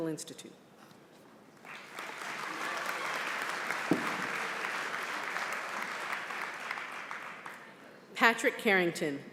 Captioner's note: applause